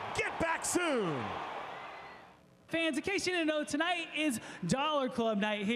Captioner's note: applause